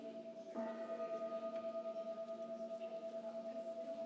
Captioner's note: bell rings